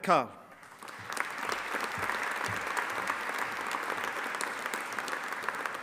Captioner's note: audience applauding